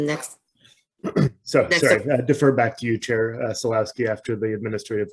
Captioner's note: clears throat